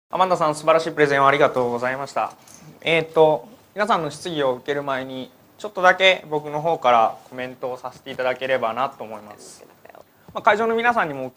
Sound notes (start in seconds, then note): 4.2 speaking japanese